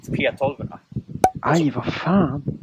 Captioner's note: plop